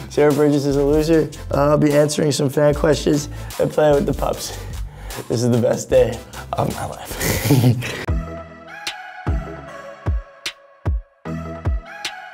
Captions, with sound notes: "Sierra Burgess Is A Loser," and I'll be answering some fan questions and play with the pups. This is the best day of my life. (laughing) (upbeat music)